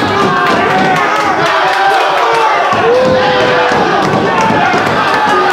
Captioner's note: shouting